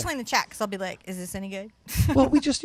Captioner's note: chuckles